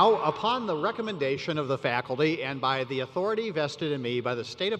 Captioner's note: cheers